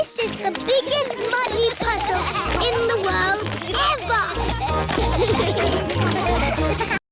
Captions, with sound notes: -This is the biggest muddy puddle in the world, ever! -(ALL GIGGLING) (ALL LAUGHING)